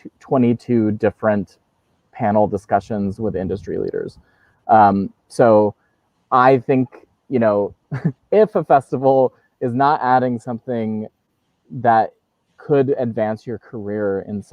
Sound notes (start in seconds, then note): 7.8 laughs